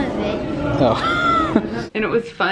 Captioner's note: laughing